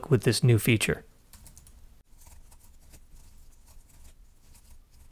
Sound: keys tapping

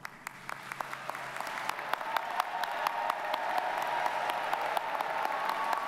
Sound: audience cheers and applauds

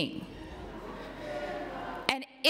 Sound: protesters chanting

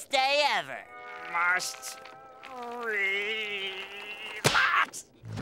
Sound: snapping

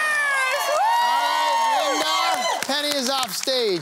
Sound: cheering

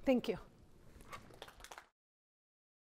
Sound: applause

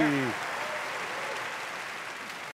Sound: clapping

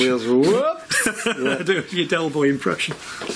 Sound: laughing

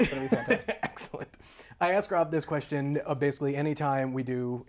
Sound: laughs

